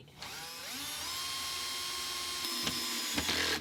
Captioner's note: whirring